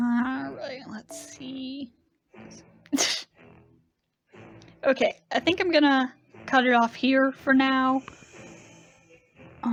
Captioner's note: laughs